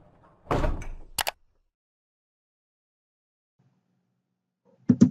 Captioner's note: computer mouse clicking